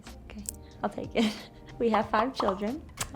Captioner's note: laughs